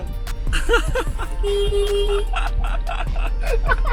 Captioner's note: honking